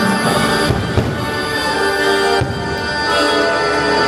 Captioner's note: fireworks pop